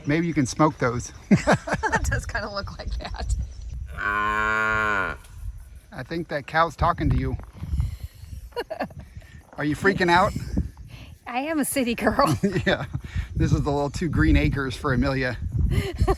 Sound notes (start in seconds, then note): 1.3 laughing; 3.9 cow mooing; 8.3 laughing; 12.5 laughing